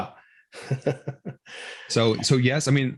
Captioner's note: laughing